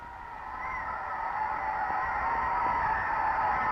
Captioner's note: crowd cheering